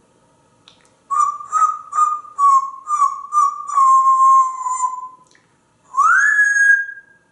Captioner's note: whistling